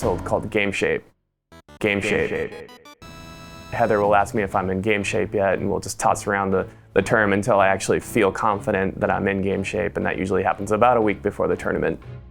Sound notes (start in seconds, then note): 1.8 echoing